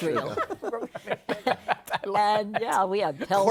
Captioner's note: laughter